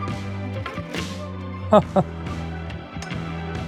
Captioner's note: laughs